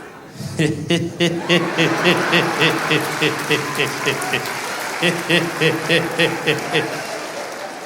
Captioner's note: Jacob Zuma laughing